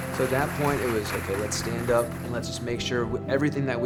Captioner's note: applause